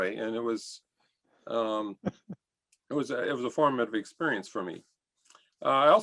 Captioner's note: laughter